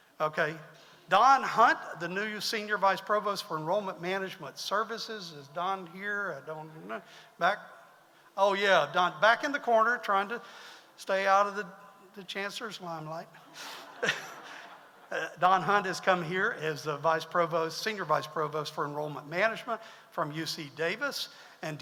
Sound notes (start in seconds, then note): 13.4 audience laughs